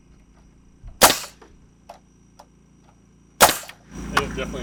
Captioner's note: nail gun shooting